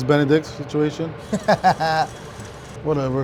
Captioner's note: laughing